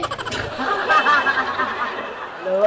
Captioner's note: laughing